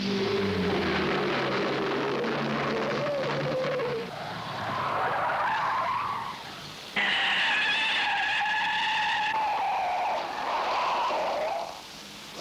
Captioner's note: tires screeching